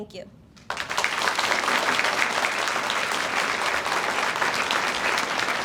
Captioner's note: audience applauds